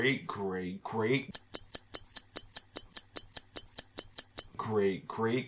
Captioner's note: stopwatch ticking